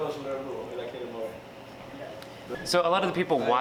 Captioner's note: people talking in background